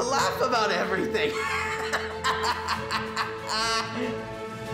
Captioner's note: laughing